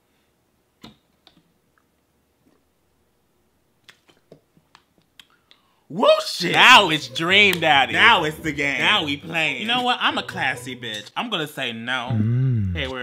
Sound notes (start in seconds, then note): 2.0 sip